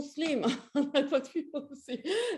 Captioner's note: chuckles